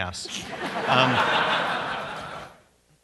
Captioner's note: laughter